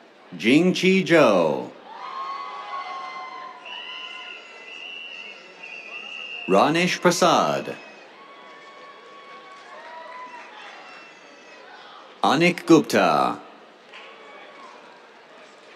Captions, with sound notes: Jingqi Zhou. [CHEERS, WHISTLES] Ranesh Prasad. [CHEERS, APPLAUSE] Anik Gupta. [CHEERS]